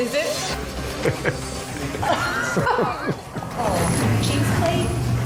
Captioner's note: both laugh